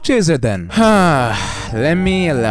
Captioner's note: sighs